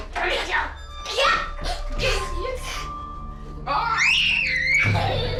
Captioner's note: screaming and laughing